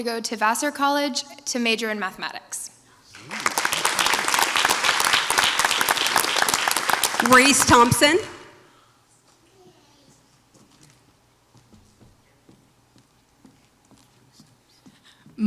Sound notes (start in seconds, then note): 3.1 audience applauds